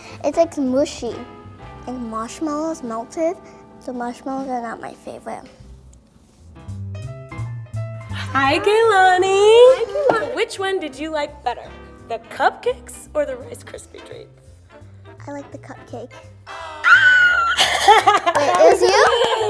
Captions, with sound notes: - It's like mushy. And marshmallows melted. The marshmallows are not my favorite. - Hi Kaylanee Which one did you like better? The cupcakes or the Rice Krispie treats? - I liked the cupcake. - Ahhh (laughter) - That was you?